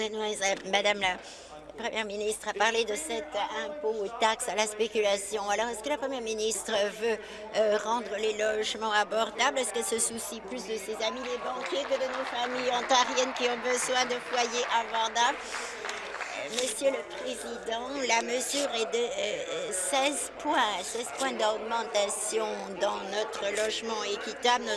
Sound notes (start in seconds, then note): 15.9 applause